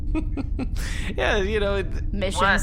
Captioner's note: laughs